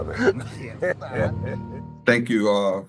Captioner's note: actor laughs